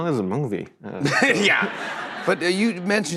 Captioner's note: laughter